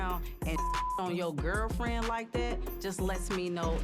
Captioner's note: beep